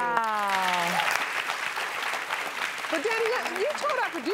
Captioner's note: audience claps